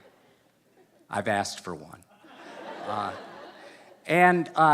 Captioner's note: laughter; laughter